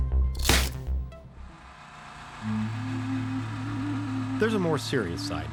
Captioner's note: machine whirring